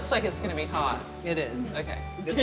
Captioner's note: laughs